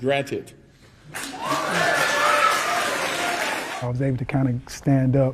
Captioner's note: audience clapping and cheering